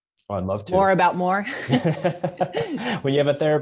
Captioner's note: laughs